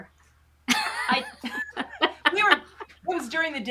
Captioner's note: chuckles